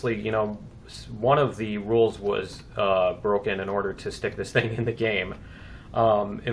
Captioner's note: laughs